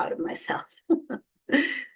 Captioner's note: chuckles